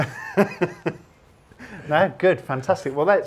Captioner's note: laughs